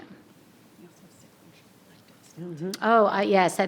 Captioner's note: faintly speaking